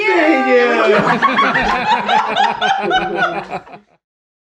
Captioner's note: all laughing